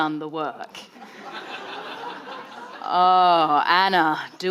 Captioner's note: audience laughing